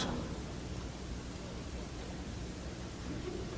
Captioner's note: laughter